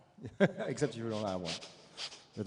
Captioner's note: laughs